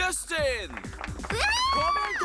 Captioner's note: cheering